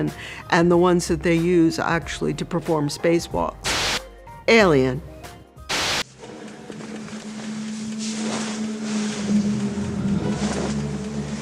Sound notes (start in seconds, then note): 7.1 suit shuffles